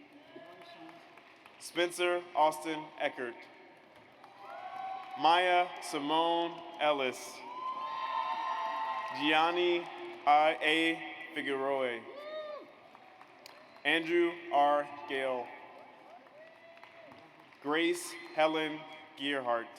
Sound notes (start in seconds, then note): 0.0 audience applauds; 4.2 audience cheers; 7.4 audience cheers; 12.2 audience cheers; 15.7 audience applauds